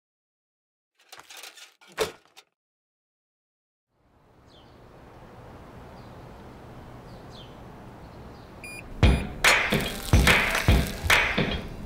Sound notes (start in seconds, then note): 1.0 logo creaks; 4.2 birds chirp; 8.9 uptempo music